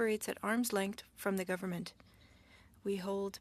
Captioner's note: speaking French